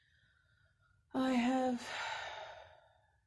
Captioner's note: sigh